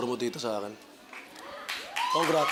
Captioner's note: crowd cheers, applauds